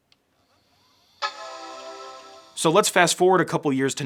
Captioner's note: computer startup sound